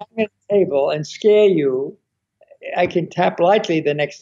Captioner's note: thud